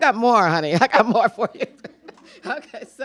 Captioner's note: chuckles